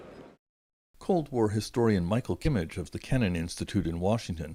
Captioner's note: speaking Alternate Language